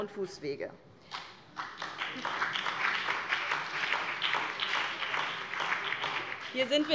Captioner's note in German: Beifall BÜNDNIS 90/DIE GRÜNEN